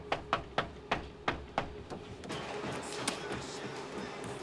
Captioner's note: knocks